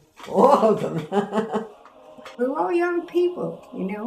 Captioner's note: laughs